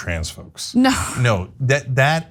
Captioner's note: laugh